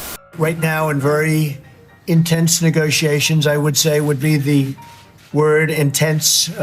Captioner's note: Voice of Trump